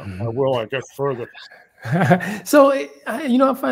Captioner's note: laugh